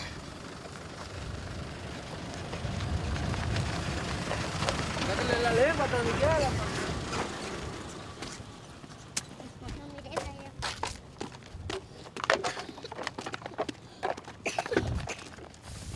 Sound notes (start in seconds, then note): 5.3 speaking in foreign language; 12.8 dry coughing